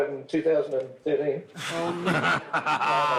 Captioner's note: laughs